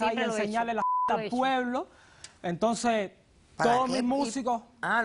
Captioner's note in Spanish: Bip